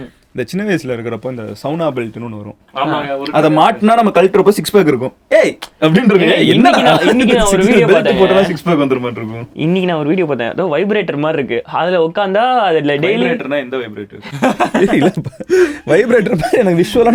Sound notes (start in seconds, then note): 8.5 laughs; 14.2 group laughs